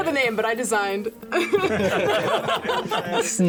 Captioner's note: laughter